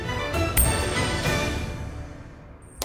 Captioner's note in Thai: เสียงเหรียญ